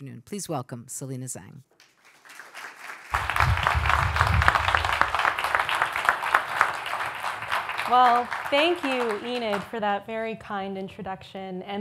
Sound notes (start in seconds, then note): 1.8 audience applauds